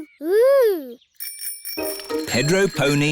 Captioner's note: bicycle bells ringing